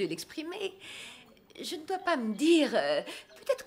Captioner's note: laughs